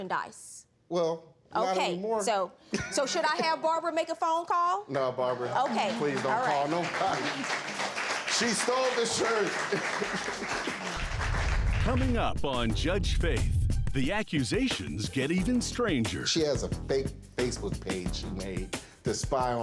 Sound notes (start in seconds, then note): 9.2 laughing